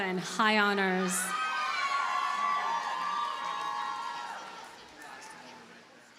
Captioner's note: audience cheers and applauds